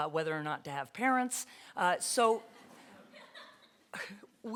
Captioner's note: laughter